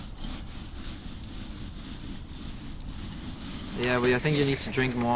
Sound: snow squelching

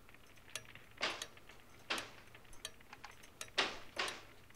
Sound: door creaking; door banging

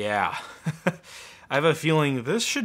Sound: laughing

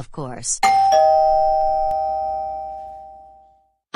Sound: doorbell rings

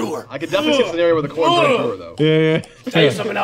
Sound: gagging

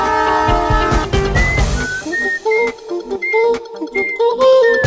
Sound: whistles

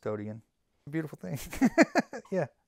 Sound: laughs

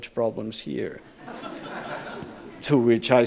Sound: audience laughs

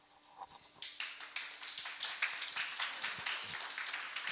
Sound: audience clapping

